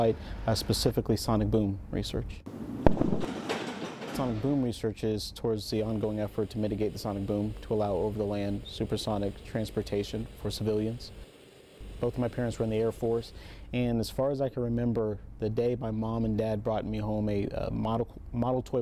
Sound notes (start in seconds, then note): 2.5 sound of jet engine and sonic boom